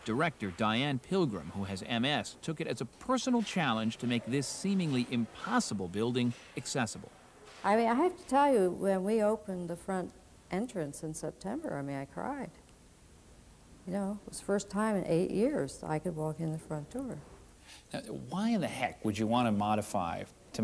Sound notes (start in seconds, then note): none